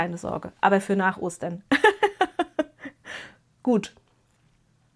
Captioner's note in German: gelächter